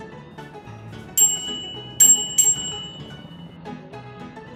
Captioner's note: bell ringing